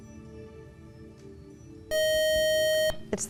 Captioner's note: loud buzzer